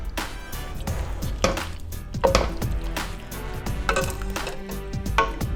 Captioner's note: pot clanging